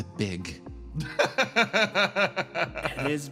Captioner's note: laugh